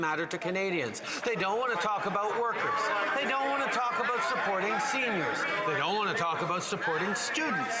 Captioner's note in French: voix de l'interprète